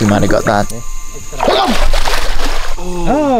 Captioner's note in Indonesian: scream